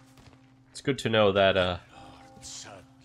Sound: none

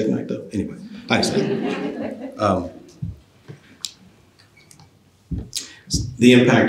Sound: laughter

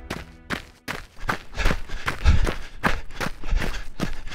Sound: running and heavily breathing

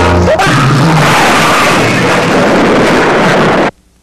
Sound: man screams

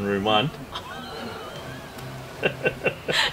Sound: laughs

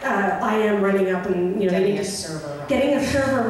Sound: voiceover

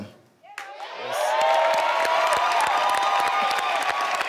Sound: cheering

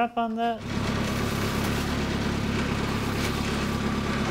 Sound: engine

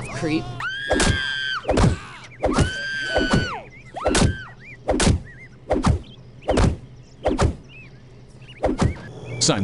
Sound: woman screaming as brutal beating ensues

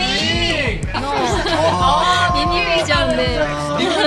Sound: laughs

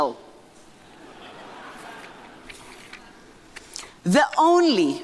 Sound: audience laughing

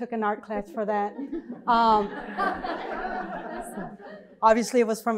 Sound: laughter

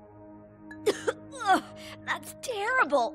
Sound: sobbing; coughing

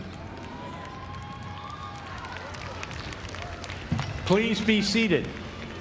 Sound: applause

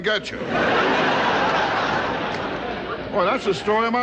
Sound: audience laughing

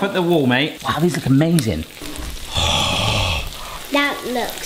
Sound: gasps

